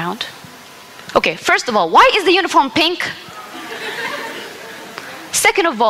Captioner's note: laughter